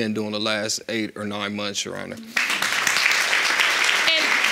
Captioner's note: audience applauds